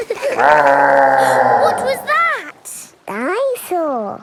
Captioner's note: gasps; laughing; growling